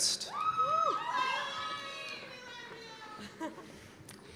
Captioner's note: cheers and applause